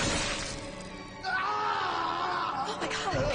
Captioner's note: Peter screams